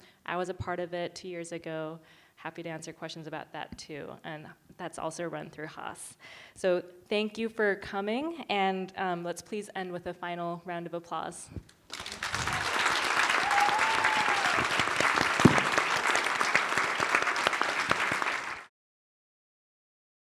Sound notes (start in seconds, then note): 11.9 applause